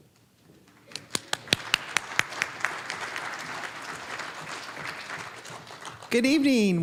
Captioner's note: applause